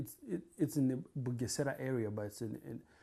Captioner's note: non-english